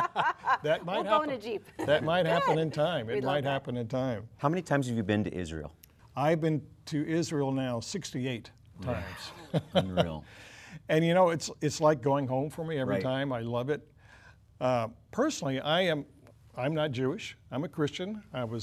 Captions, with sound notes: [all laughing] That might happen. That might happen in time. How many times have you been to Israel? I've been to Israel now 68 times. WOW! Unreal. And you know, it's like going home for me every time. I love it. Personally, I'm not Jewish, I'm a Christian.